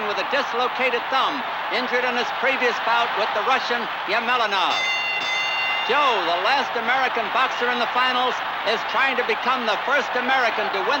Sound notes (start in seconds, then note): 4.6 bell dinging